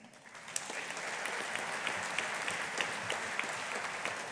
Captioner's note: audience applauding